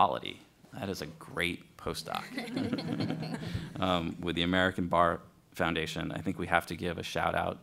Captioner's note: laughter